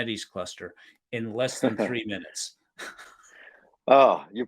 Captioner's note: chuckles